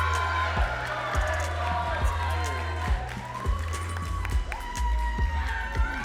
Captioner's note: audience cheering and clapping